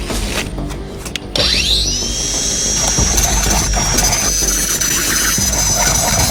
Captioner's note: grinding rust off the feeder